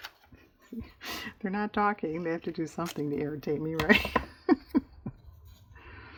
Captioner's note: laughs